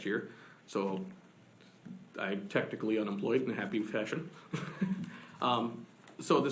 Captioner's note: laughs